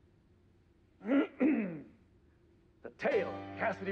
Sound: clears throat

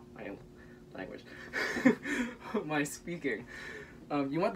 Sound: laughter

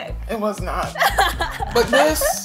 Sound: laughing

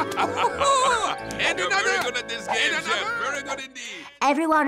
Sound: laughs

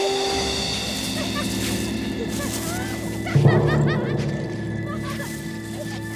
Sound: warm pensive music; tense music; foliage rustling

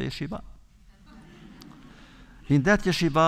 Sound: audience laughter

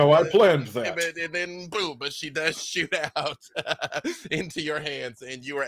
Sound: laughs

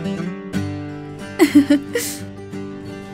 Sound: Vasundhara chuckles

